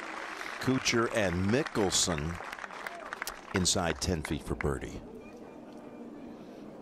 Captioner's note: applause